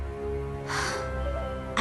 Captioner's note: sigh